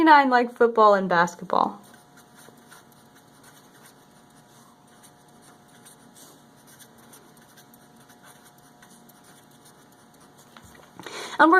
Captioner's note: writing sounds